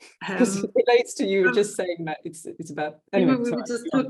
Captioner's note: both chuckling